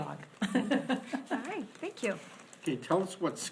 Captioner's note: board laughs